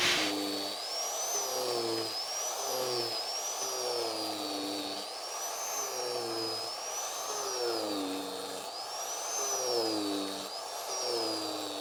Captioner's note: cutter revving